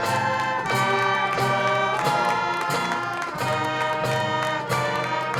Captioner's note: crowd cheering